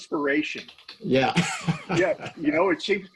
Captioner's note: laughing